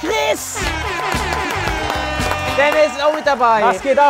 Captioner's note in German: Jubel, Applaus